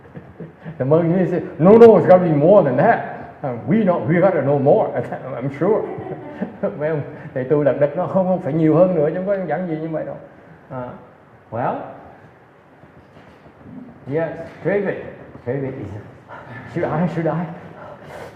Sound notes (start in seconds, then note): 0.0 laughs; 5.6 laughs